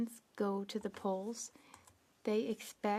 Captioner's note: speaking French